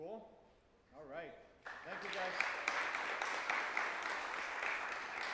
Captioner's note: audience clapping